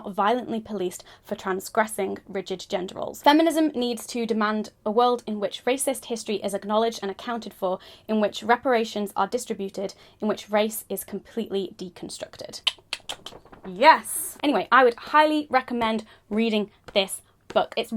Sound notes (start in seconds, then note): 12.6 tongue clicking